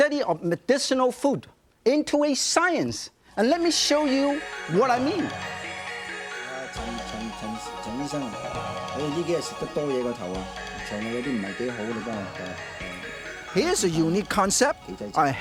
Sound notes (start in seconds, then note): 6.9 speaking in Chinese